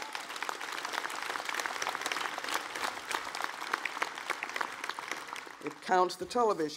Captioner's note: applause